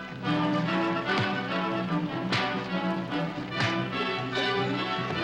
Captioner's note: fists thwacking